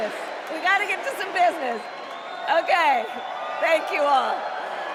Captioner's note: crowd chanting